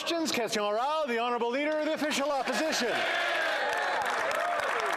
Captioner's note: some Applause